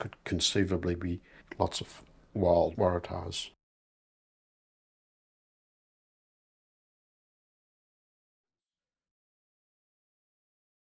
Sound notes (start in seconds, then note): 4.8 silence